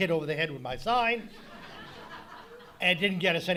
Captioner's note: audience laughing